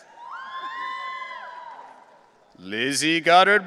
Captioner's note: audience cheering